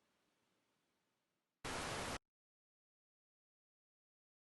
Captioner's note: TV static